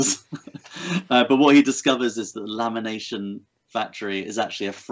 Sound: chuckles

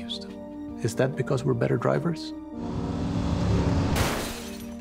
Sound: engine revs

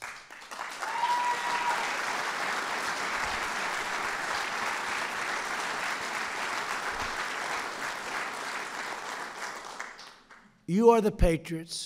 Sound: applause

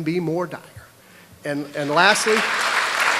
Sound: applause

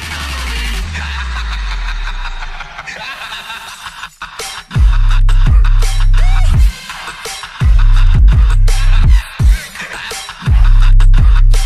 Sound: laughs

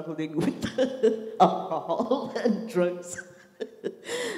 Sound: laughs

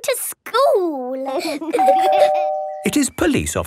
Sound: door bell ringing

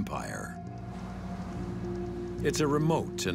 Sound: waves swishing

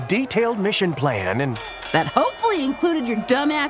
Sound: bell dings

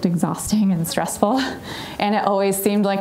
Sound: chuckling

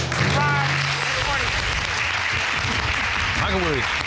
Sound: audience applauding

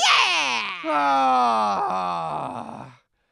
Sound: groaning

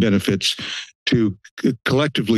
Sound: inhales

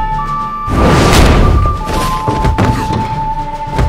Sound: thudding

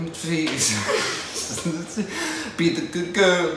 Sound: laughs

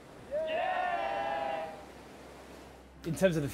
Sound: people cheering

